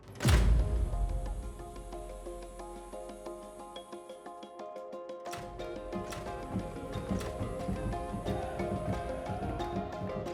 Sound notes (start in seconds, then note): 0.2 lights click and buzz; 2.4 bright music; 5.3 lights clicking; 7.4 crowd chanting